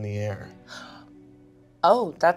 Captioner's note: gasps